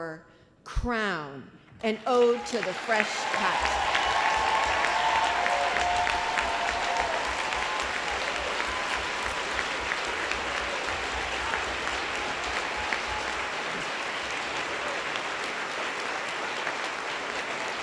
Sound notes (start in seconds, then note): 8.1 applause